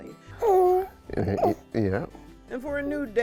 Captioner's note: cooing